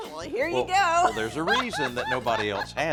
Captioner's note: laughs